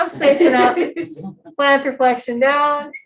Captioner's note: laughter